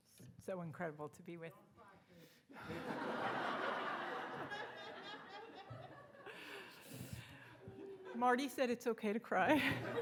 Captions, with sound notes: - So incredible to be with. - Don't cry. (audience laughing) - Marty said it's okay to cry.